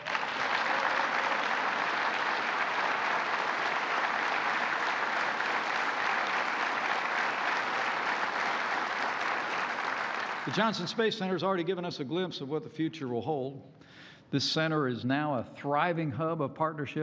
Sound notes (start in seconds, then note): 0.0 applause